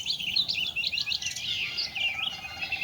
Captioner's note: birds singing